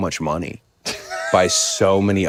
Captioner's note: Finn laughs